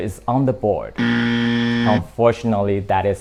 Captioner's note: buzzer